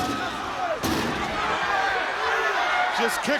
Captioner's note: stairs clanging